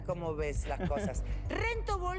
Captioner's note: ríe